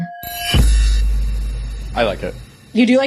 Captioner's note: chimes